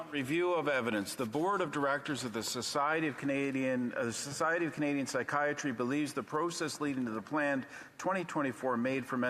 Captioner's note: off mic